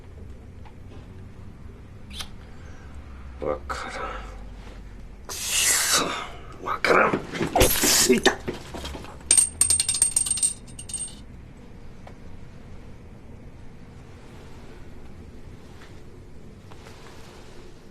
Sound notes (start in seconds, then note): 2.1 clicks tongue; 7.3 glass shatters; 9.2 ring clatters